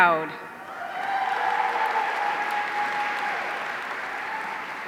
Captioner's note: audience cheering